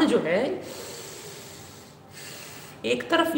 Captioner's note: deep Breathing…